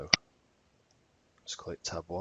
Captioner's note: mouse clicking